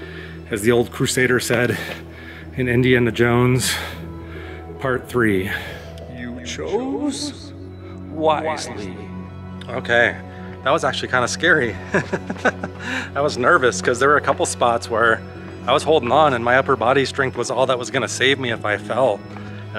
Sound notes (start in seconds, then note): 5.4 echoes; 11.7 laughter